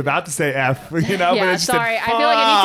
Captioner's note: laughs